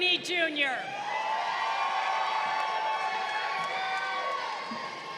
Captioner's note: crowd cheering